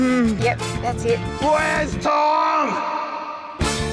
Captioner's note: voice echoes